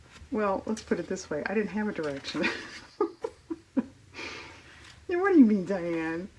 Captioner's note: laughs